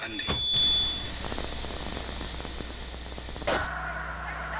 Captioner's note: static crackling